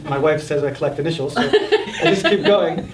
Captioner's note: panelists laughing